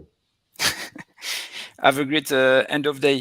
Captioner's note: laughs